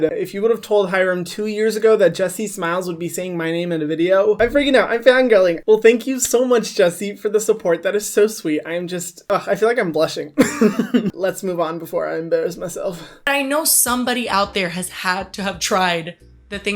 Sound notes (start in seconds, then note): 10.4 laughs